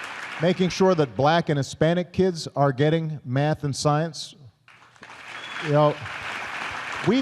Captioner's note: applause